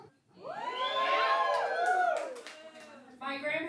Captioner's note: audience cheering